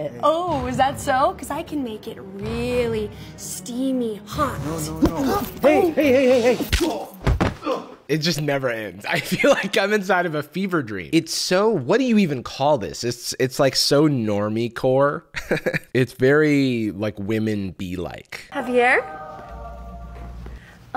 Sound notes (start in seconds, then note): 6.7 punch, man falling; 7.6 groans; 8.9 laughing; 15.3 chuckles; 18.6 angelic music